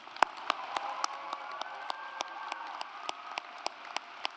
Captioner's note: audience applauds